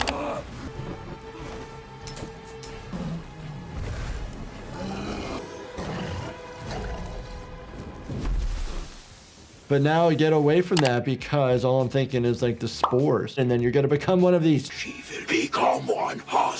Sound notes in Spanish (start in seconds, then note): 0.2 música dramática; 4.3 gruñido del tambaleante; 8.2 llamas chisporroteando